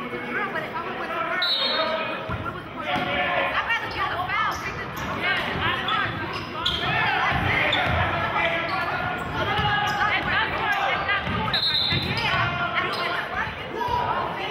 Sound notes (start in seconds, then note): 1.4 whistling; 6.1 yelling; 11.5 whistling